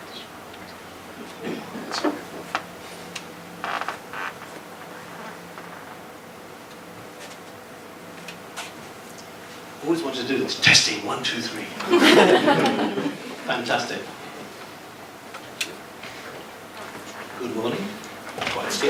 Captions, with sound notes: - I've always wanted to do this: testing one, two, three! (chuckling) Fantastic. Good morning. It's scary, actually, being in a room this size,